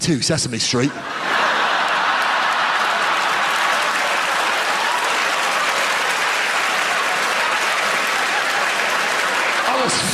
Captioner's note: audience laughter and applause